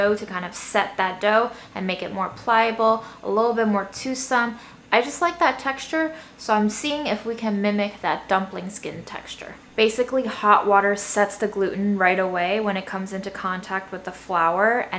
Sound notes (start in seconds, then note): none